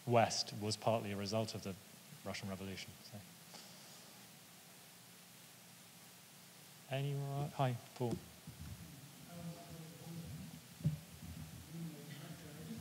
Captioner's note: quietly speaking